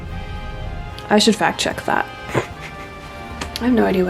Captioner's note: snorts